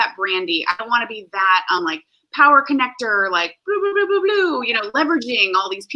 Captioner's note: beep Noises